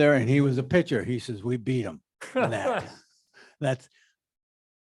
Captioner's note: laughs